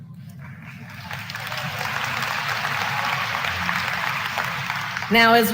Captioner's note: applause